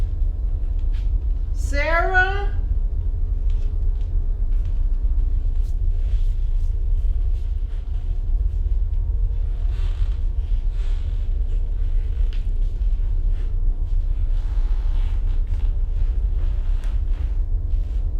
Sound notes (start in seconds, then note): 14.5 floor creaking